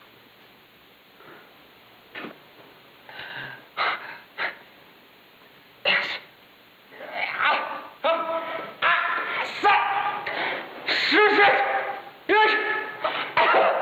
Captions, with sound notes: Susan. Yes. (painful yelling) Su...! Susan!